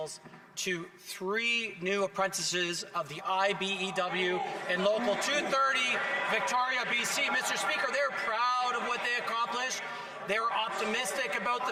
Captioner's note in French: voix de l'interprète